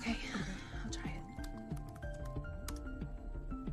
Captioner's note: typing